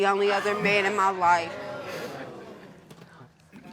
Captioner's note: audience groans